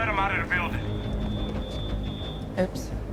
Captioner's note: alarm beeps